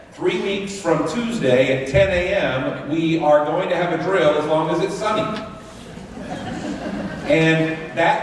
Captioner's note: laughter